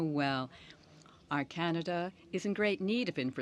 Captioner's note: speaking French